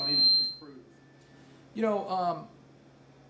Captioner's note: mic squeals